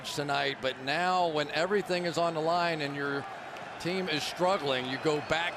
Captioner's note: crowd cheering